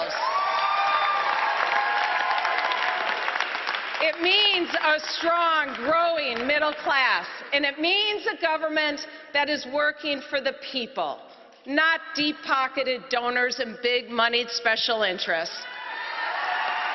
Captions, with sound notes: IT MEANS INCREASING THE MINIMUM WAGE, SO PEOPLE WORKING FULL-TIME CAN SUPPORT THEMSELVES. [APPLAUSE] IT MEANS A STRONG, GROWING MIDDLE CLASS. IT MEANS A GOVERNMENT THAT IS WORKING FOR THE PEOPLE.